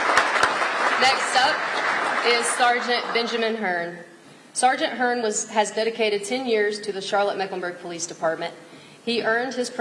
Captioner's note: applause